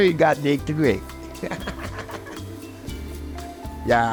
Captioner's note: laughs